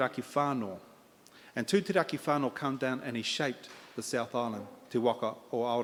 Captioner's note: in Maori